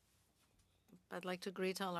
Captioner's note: speaking French